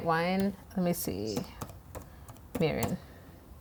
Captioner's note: keyboard typing